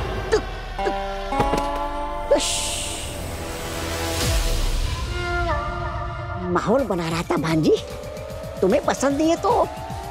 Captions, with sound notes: [swish] Aageel, I was just creating an atmosphere. If you don't like it,